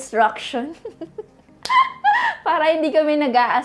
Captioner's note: giggles